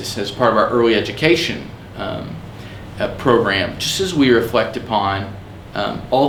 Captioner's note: none